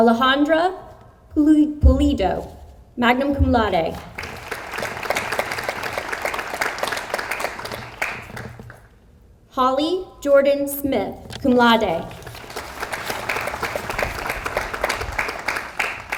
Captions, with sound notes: Alondra Pulido, magna cum laude. (audience applauds) Holly Jordan Smith, cum laude. (audience applauds)